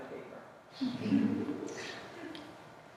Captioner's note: laughter